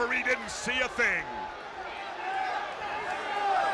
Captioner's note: crowd chatter